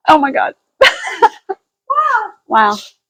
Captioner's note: laughing